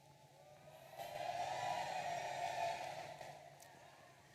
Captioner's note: audience cheering